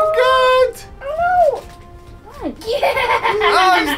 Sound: laughs

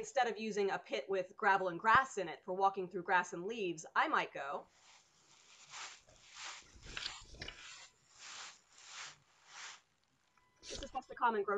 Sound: rustling sound

